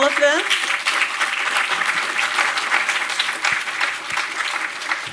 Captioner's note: audience applauds